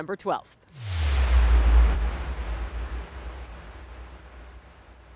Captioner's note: logo whooshing in